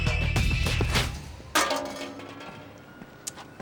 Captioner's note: clatters